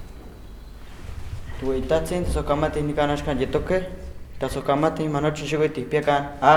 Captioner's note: speaking in Náhuatl